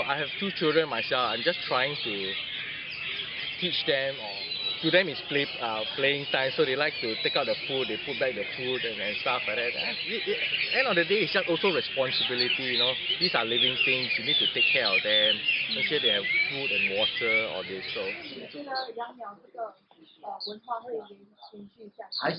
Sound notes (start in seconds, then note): 7.6 bird